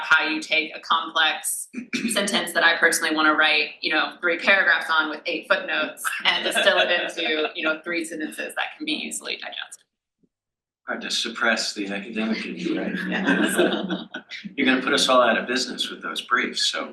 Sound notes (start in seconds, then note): 6.0 laughs; 12.9 panel laughs